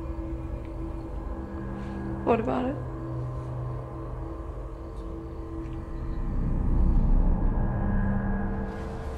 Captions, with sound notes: - What about it? (tense music) (crickets chirping)